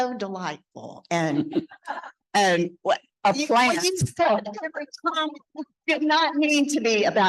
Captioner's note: speaking faintly